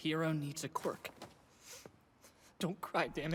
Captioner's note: Izuku sniffles